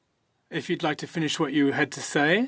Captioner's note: speaking French